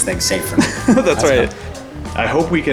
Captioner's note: laughing